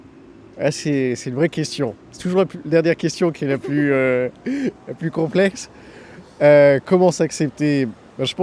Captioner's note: laughter